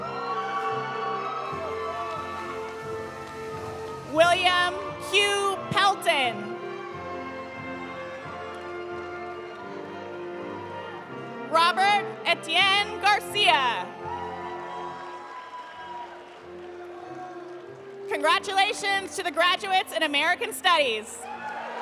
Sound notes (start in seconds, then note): 0.0 audience applauding; 0.0 audience cheering; 6.7 audience applauding; 6.9 audience cheering; 13.9 audience cheering; 13.9 audience applauding